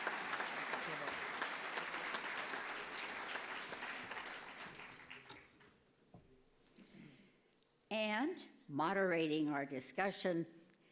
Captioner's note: applause